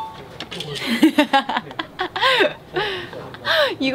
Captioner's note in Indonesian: Haha